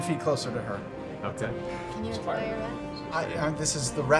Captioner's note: quietly